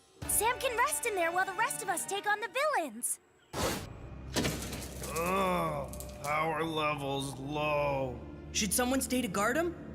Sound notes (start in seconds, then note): 5.1 Sam Groaning